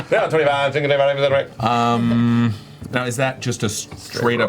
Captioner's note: auctioneer's babble